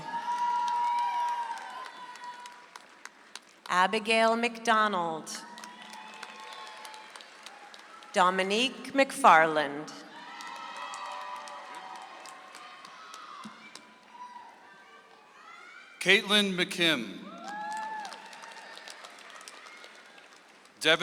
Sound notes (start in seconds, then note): 0.0 audience applauds; 5.4 audience applauds; 10.1 audience applauds; 16.6 audience applauds